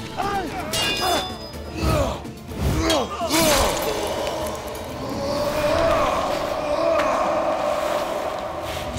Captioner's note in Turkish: Dövüş sesleri